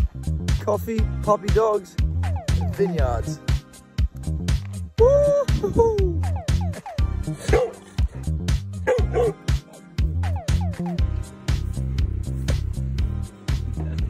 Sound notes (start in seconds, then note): 7.2 LEON the dog barks